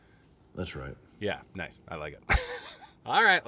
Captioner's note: laughing